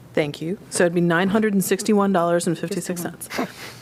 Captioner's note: laughter